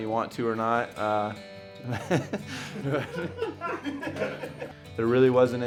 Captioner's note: background laughter